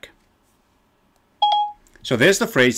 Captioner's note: text notification